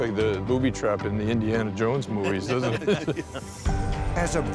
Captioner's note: laughter